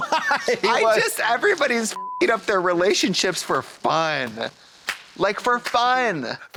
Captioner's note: beep